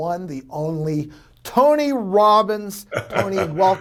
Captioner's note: Tony laughing